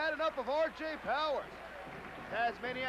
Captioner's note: crowd cheering